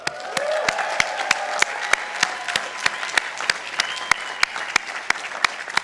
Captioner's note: participants applauding